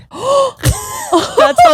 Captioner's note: gasping; both laughing